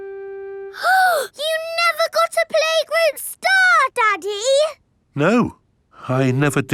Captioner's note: gasps